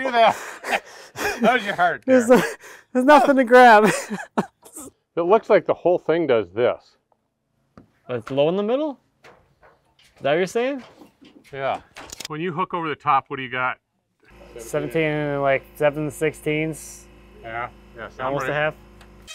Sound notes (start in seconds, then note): 3.8 laughs